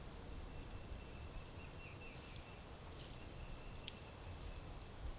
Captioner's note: birds chirping